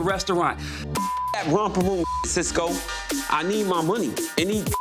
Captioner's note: beep; beep